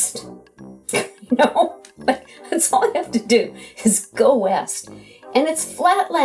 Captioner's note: laughs